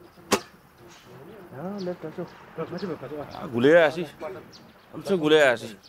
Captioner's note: speaking in foreign language